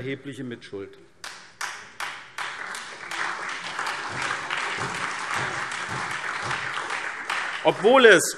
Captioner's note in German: Beifall SPD, Freie Demokraten und DIE LINKE